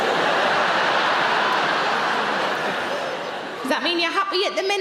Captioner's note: audience laughing